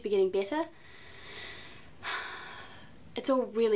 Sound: Beatrice sighs

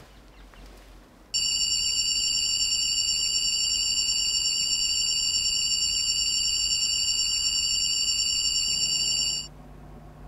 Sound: weird high-pitched future-tech noise

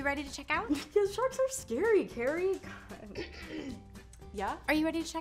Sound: clears throat

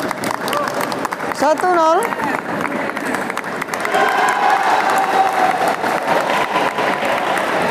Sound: applause

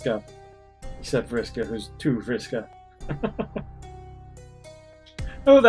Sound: chuckles

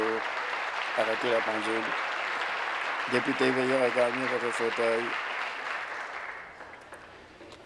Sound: applause

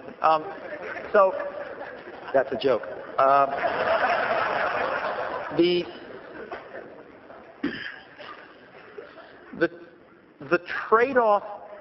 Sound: laughter; laughter

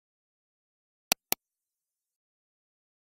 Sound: sound of computer mouse click

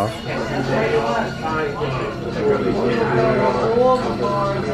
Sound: guests chattering

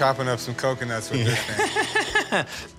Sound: laughs

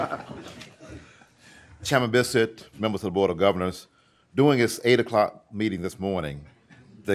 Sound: laughter

